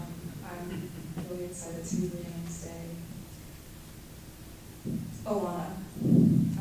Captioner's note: non-english speech